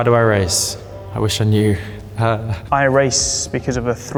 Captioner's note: chuckles